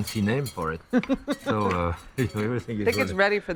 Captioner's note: laughs